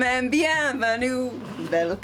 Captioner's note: speaking in foreign language